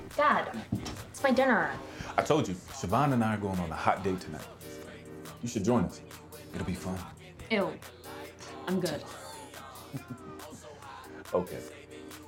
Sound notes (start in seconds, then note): 9.1 laughing